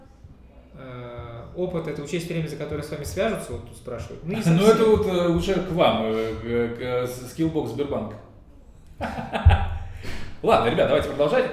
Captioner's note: laughing